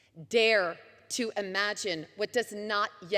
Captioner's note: none